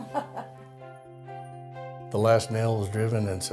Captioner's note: laughs